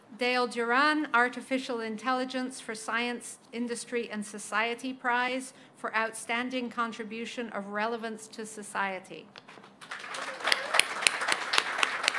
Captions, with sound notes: Dale Durran, Artificial Intelligence for Science Industry and Society prize for outstanding contribution of relevance to society. [APPLAUSE]